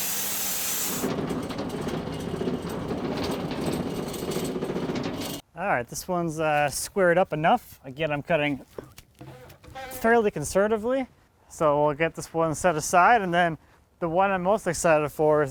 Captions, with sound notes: (saw rolling) All right. This one's squared up enough. Again I'm cutting fairly conservatively. So we'll get this one set aside, and then the one I'm most excited for